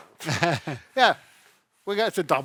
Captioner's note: chuckles